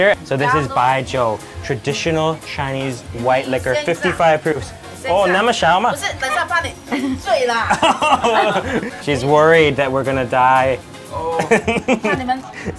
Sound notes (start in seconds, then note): 6.8 laughs; 11.9 laughs